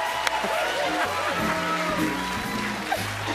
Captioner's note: both laugh